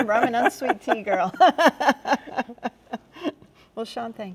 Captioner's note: both chuckling